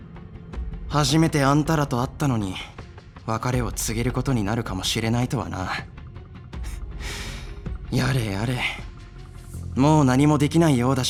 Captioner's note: sigh